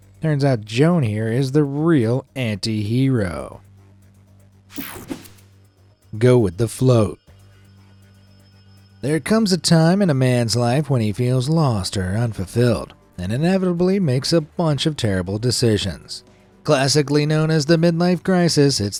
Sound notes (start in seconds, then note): 3.7 bright music; 4.7 air whooshes